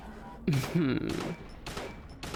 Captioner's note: smirk giggle